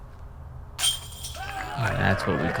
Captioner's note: cheering